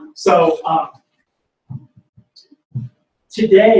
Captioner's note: pause